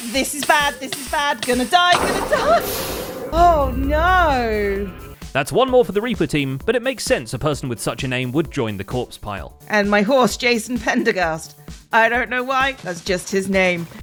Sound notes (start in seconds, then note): 1.9 End portal noise